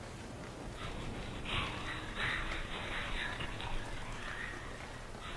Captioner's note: mysterious whispering